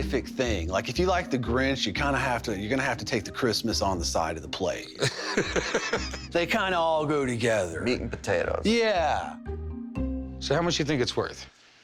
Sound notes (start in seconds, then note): 5.0 laughs